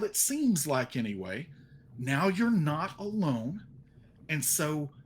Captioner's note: none